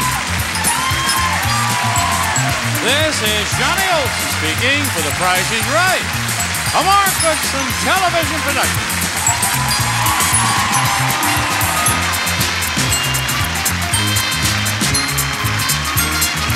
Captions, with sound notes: - This is Johnny Olson speaking for "The Price is Right." A Mark Goodson Television Production. (audience cheering) (upbeat music)